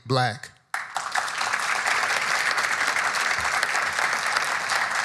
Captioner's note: audience applauding